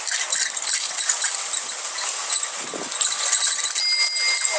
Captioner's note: bikes squeaking and ringing